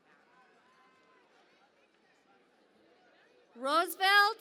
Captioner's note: cheering and Applause